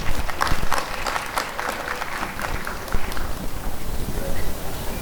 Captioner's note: applause and cheering